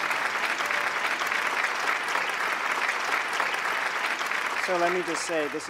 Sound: audience clapping

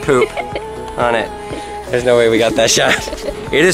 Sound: laughs

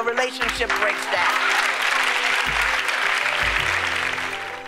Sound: applause

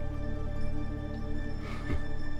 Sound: chuckles softly

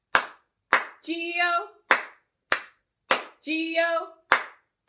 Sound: clap, clap, clap

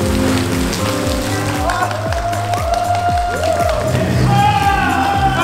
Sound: And applause is given to Wonho who performs alone

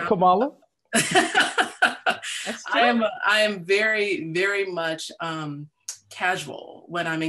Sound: laughs

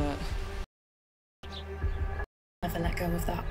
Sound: birds chirping

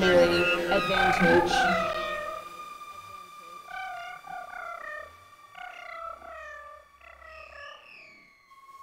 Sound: vibratory sounds

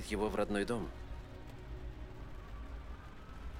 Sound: RAlN PATTERlNG

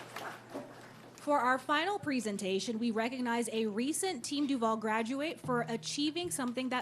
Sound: applause

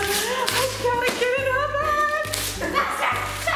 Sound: gasp

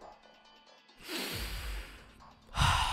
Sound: inhale; exhale

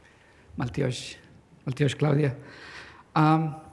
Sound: non-english

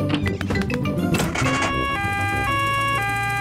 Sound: siren wails

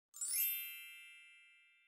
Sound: twinkles

